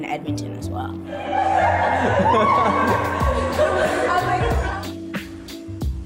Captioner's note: laughing